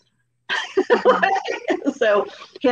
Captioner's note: laughing